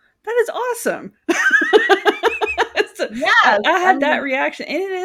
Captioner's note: laughing